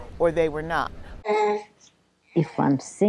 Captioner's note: baby coos